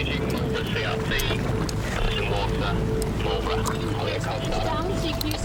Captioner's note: water splashing